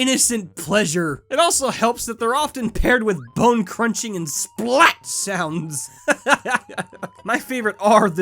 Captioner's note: laughs